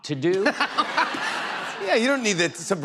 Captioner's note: laughter